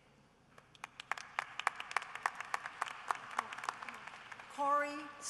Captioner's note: applause